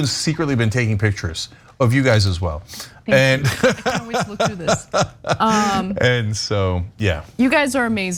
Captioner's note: laugh